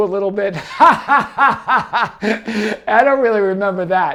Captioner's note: laughing